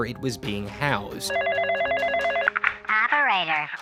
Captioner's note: phone ringing